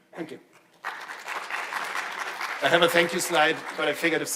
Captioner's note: attendees applauding